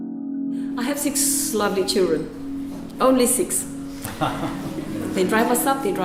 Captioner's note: laughs